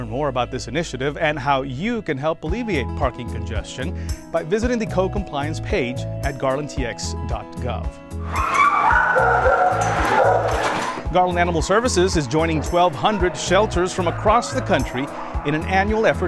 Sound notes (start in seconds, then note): 8.6 barking